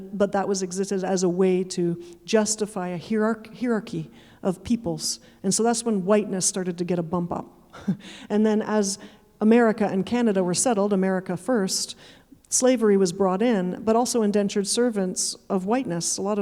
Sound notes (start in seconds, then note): 7.7 chuckling